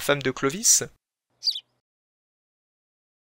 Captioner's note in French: chant d’oiseau